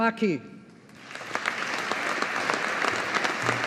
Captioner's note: audience applauding